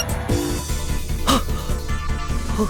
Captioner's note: gasp